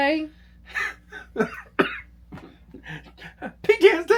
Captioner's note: coughing